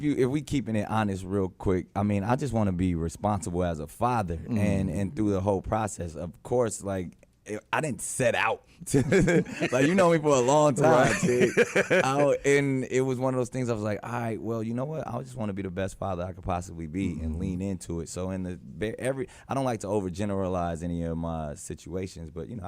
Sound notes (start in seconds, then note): 8.9 laughing